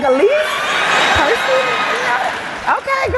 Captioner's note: cheering